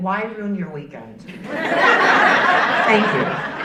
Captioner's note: audience laughing